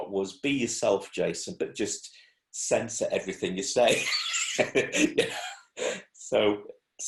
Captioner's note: laughs